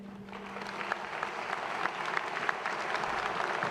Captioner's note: applause